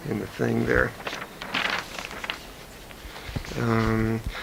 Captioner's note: paper rustling